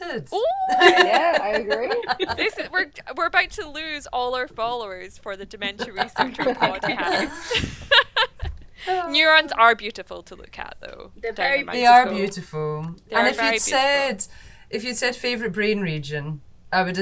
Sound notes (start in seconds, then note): 5.8 doctors laughing